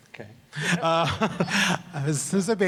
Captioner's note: laughs